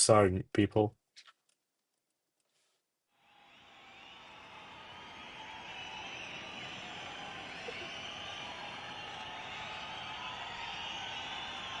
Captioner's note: cheering